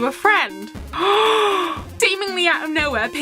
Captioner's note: gasp